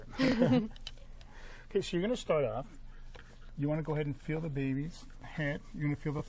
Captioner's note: laughing